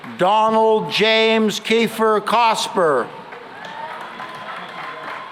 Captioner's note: cheering and applause